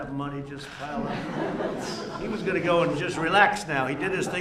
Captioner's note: laughter